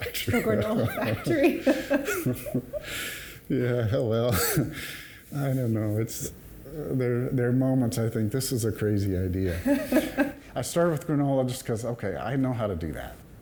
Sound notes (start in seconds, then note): 0.3 laughs; 4.5 chuckles; 9.5 laughs